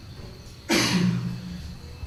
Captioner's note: achoo!